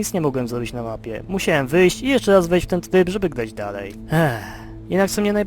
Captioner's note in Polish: westchnienie